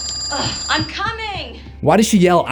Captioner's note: phone rings